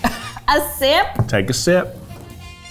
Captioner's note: laughs